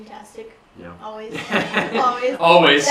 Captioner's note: laugh